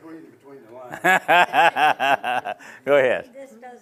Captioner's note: laughs